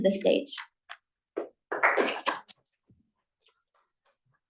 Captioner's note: applause